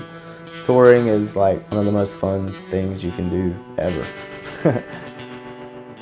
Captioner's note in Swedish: skrattar